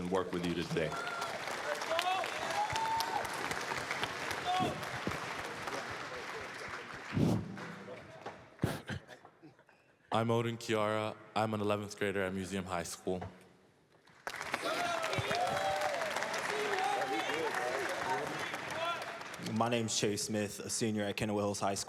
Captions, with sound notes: and work with you today. [APPLAUSE] >> Let's go. [APPLAUSE, CHEERS] >> I'm Odin Kiara I'm an 11th grader at Museum High School. [APPLAUSE, CHEERS] >> My name is Chayce Smith, a senior at Kenowa Hills High